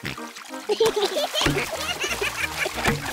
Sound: oinks; both giggle

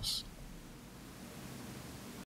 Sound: static

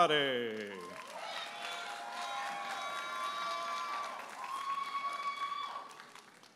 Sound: audience applauding and cheering

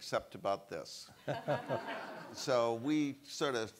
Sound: all laugh

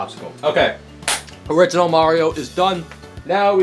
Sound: hands clap

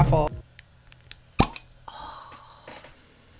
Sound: cork pops; sighs

